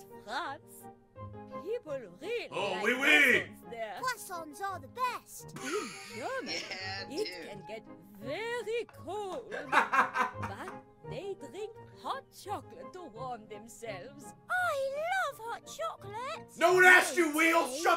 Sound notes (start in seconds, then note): 5.6 laughs